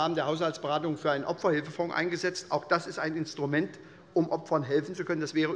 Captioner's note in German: none